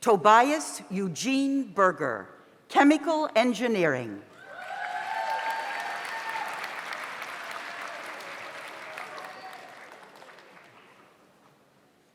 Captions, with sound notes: Tobias Eugene Burger, Chemical Engineering. (audience applauds) (audience cheers)